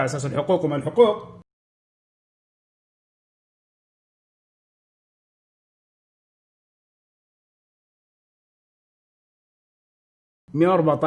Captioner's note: audio muted